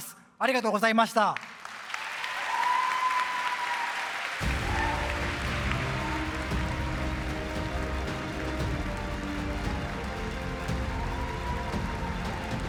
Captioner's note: applause